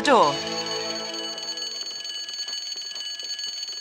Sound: alarm ♫

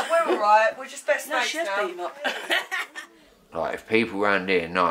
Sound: laughter

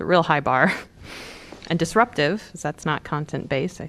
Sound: laughter

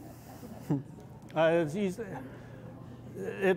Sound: laughter

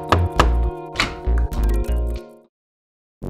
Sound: knocking; door opens

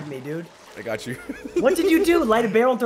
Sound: laugh

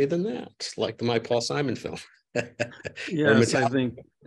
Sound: laughs

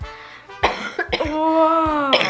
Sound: coughs

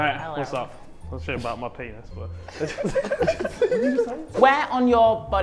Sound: Sidemen laugh

